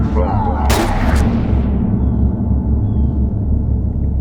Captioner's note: droning music continues; Crinoline Head shouts; shotgun blasts